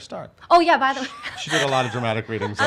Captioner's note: laughs